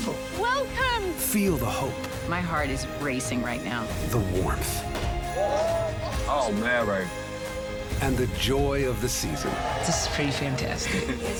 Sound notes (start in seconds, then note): 4.8 champagne bottle pops; 5.3 group exclaims; 9.2 crowd cheers